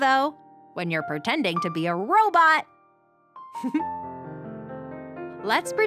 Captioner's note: giggles